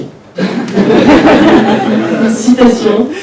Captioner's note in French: rires